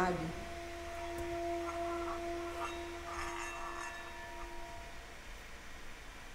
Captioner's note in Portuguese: vibração de sino